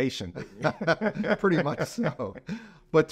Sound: both laughing

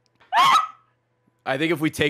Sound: scream-laughing

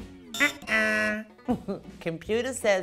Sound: mimics wrong answer buzzer

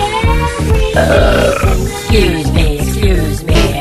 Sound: buuurp

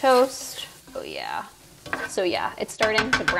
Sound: sizzling

